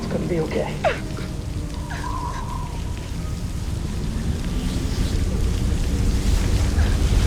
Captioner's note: crying